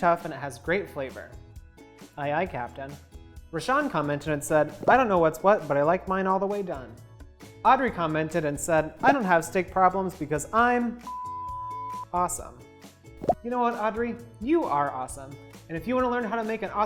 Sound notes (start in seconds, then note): 11.4 beeps